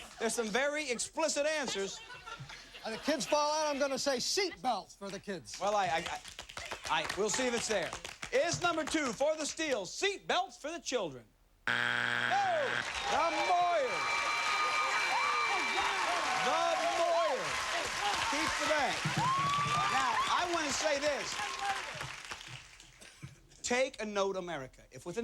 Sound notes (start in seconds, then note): 12.0 cheers and applause